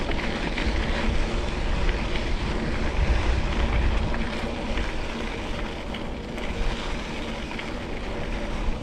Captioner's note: wind muff